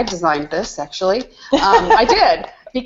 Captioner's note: laughs